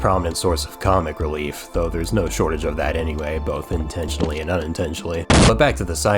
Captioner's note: boom